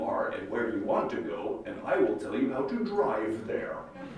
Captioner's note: laughter